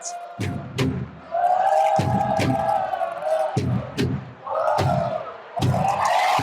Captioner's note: crowd chanting; upbeat drums; crowd cheering